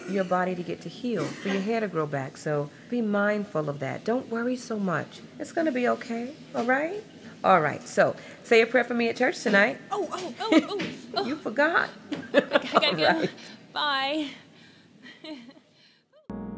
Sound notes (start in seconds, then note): 12.1 chuckles; 12.2 laughs